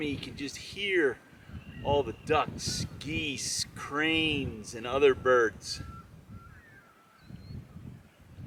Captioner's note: bird calls